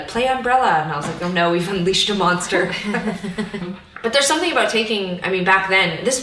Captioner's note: both laugh